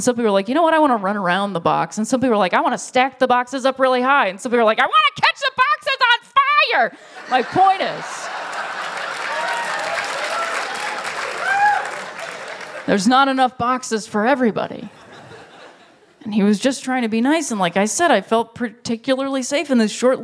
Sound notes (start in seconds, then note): 7.3 laughter; 8.1 applause